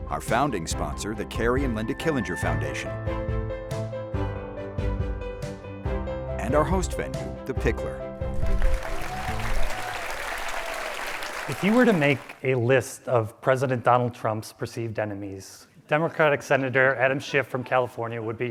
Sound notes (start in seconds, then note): 8.3 audience applauds